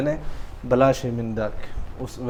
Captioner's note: Arabic